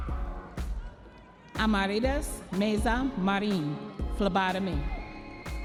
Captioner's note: audience members cheering